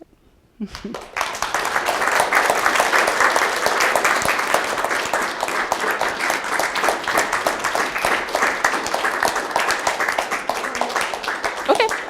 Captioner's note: applause